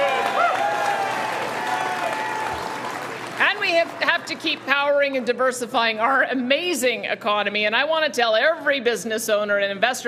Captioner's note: cheering and Applause